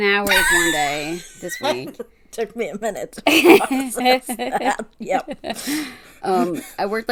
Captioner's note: laughs